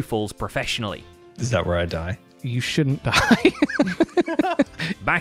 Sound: nervous laughter

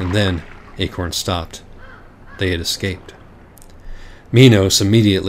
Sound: water and bird sounds

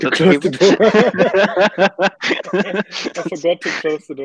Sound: both laughing

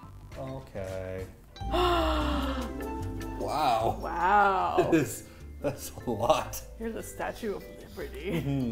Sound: gasps; chuckles

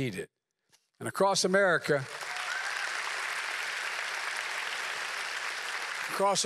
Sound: applause

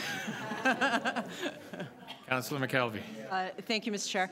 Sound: laughter

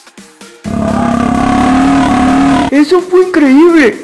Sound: urp

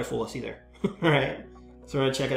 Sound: laughs

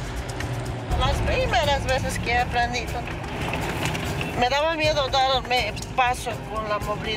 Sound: speaking in foreign language

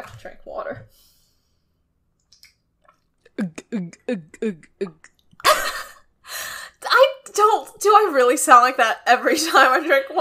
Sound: laughs

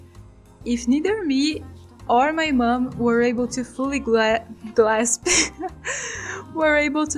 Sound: laugh

